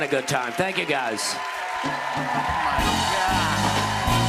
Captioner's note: cheers and applause